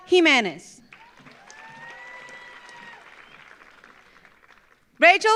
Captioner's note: audience applauds